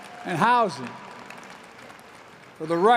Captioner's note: applause